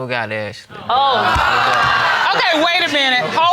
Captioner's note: audience exclaiming